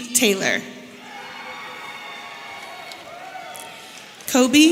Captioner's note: audience cheering